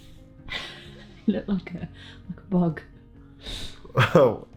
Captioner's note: chuckles